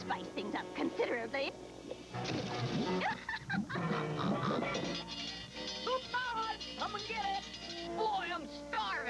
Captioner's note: snorts